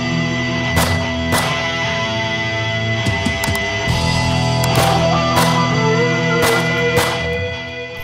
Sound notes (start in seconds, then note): 0.8 guns firing